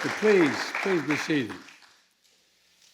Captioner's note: applause